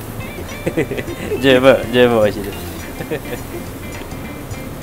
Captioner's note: laughs